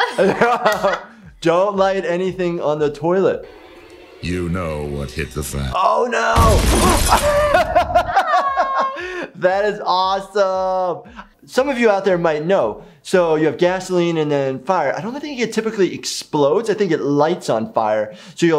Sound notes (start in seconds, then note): 7.0 laughter